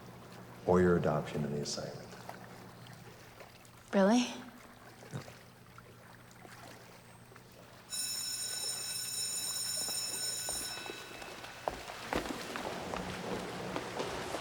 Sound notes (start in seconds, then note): 7.9 bell rings; 10.6 water splashes